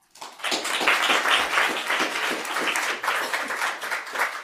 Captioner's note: audience applause